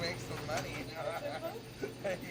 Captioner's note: laughs